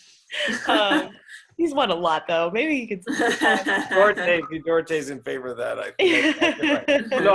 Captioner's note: laughs